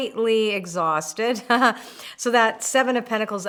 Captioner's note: laughs